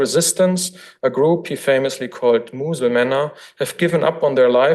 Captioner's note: foreign language